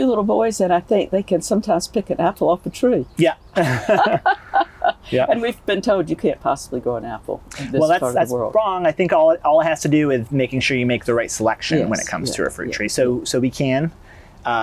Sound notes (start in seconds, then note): 3.5 laughter